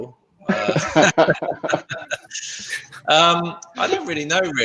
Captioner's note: laughing